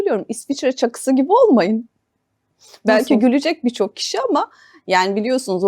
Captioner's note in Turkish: homurdanır